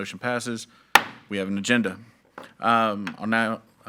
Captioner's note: gavel clacks